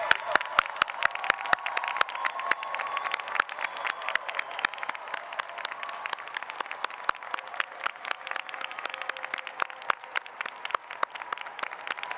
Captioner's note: applause